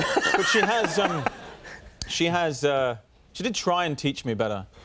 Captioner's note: audience laughing